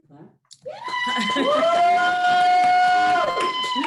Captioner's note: all cheering